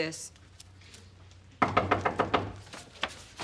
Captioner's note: knocking on door